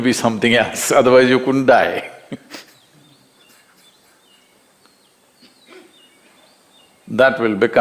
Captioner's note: laughs